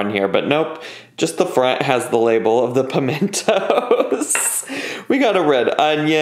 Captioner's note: laughs